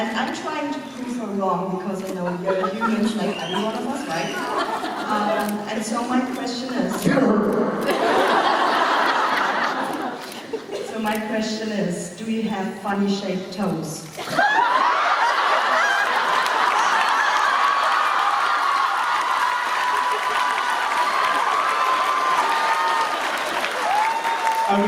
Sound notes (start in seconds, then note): 7.8 laughter; 14.2 delighted laughter and applause